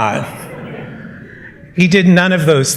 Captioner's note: laughter